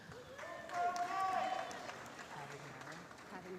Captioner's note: applause